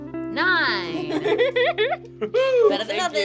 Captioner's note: instrumental music; laughter